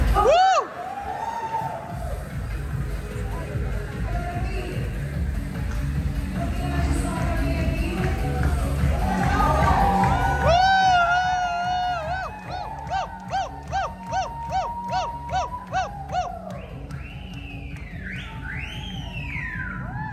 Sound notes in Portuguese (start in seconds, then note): 0.1 gritos; 9.6 todos gritam; 16.5 assobios